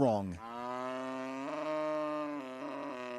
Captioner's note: cow moos